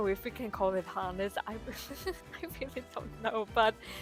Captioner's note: giggles